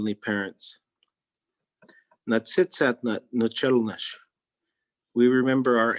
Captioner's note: speaking in Native Language